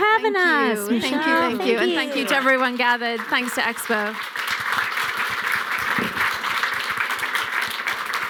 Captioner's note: applause